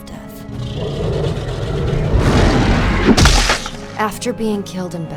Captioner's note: creature growl and snapping